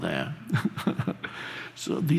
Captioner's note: laughs softly